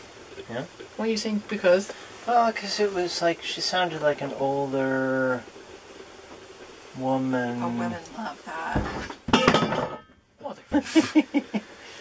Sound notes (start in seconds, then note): 8.7 crash; 10.7 laughter